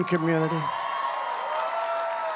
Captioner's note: applause